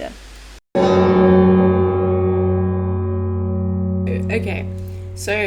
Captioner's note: extremely large bell noises